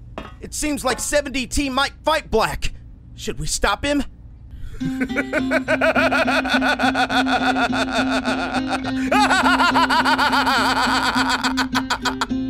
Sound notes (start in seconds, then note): 4.7 laughs in Hysteria